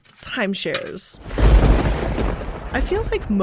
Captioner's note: thunder cracks